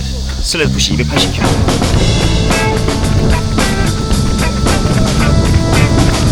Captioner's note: laughs